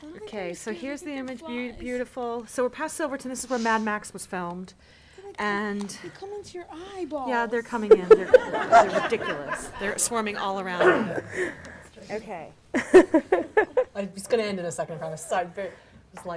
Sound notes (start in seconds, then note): 7.7 audience laughing; 12.7 laughing